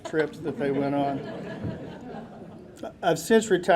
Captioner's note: audience laughing